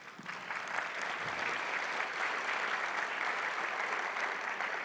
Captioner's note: audience applauding